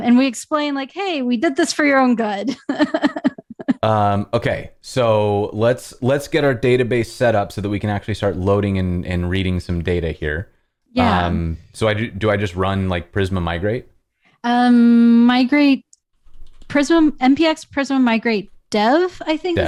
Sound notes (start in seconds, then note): 2.4 laughter